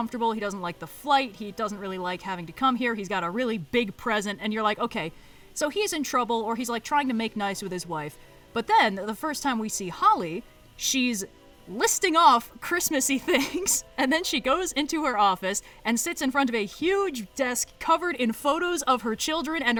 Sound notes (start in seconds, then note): 13.2 laughs